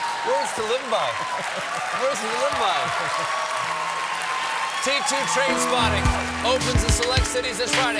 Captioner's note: cheers and applause